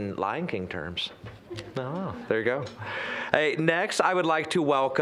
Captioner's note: audience chuckling